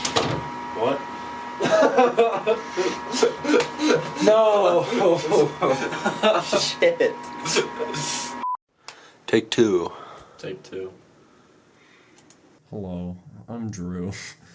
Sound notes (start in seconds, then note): 1.6 laughter; 1.6 laughing; 9.9 exhales; 13.8 chuckle